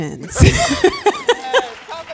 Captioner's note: applause